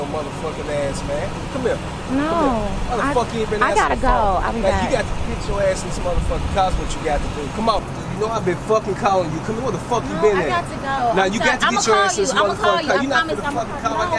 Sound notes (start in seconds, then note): 11.0 man arguing